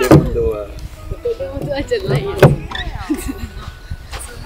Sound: laughs

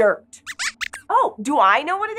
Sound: squeaks squeaks

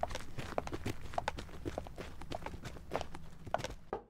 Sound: knock on door

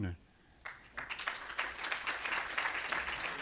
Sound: applause

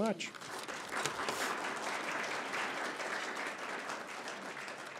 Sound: applause

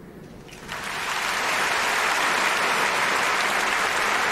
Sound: applause

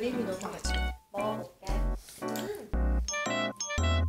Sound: chewing x2

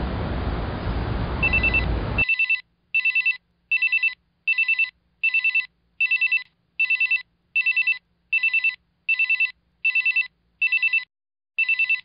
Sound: phone ringing

